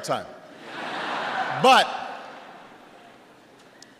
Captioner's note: laughter